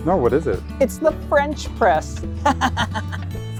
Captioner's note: laughter